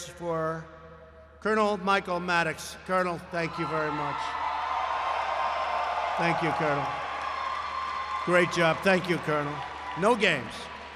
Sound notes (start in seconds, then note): 4.2 applause